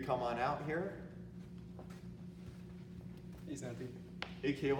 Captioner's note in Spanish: Los pasos pisan en el piso del aeropuerto